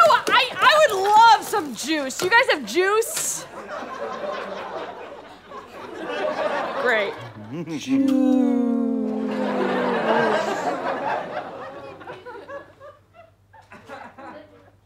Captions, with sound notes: - You know what, I would love some juice. Do you guys have juice? [audience laughter] Great. - [in a descending tone] Juuuuiccce. [audience laughter]